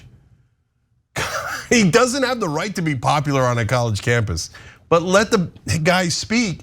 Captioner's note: laugh